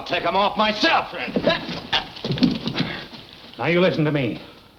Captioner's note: grunting